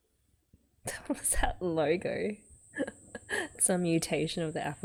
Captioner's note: laughs